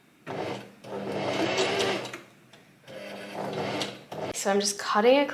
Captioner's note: sewing machine surges